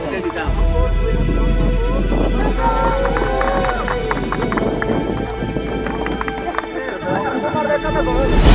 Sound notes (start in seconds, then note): 2.4 applause